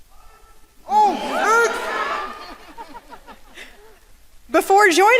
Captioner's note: audience cheering